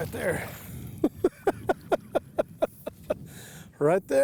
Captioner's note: chuckles